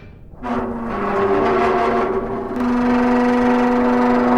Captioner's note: gears grinding